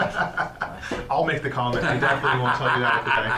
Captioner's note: laughs